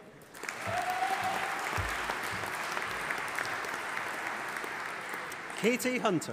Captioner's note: audience applauding and cheering